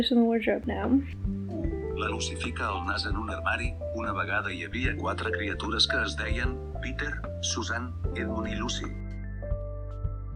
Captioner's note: robot Catalan